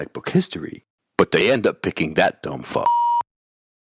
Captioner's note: beeping